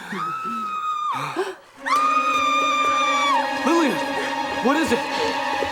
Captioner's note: Lillian screaming